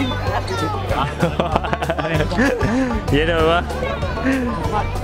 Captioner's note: laughter